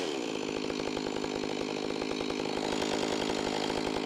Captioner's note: chainsaw whirring